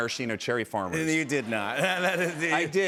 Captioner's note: laughter